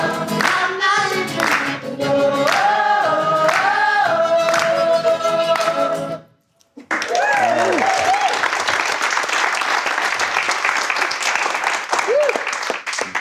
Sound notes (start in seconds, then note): 6.8 audience applause